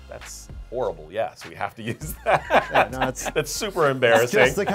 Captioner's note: laughing